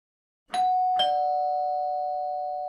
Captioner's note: door Bell Sound